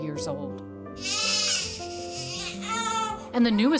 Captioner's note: baby crying